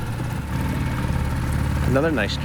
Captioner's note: engine whirs